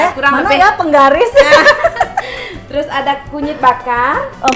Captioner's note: laugh